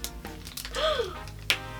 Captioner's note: gasp